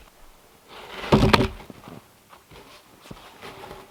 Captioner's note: log thumps